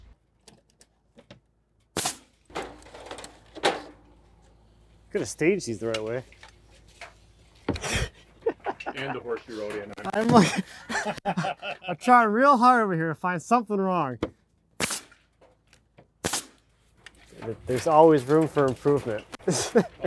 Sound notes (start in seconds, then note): 7.8 laughing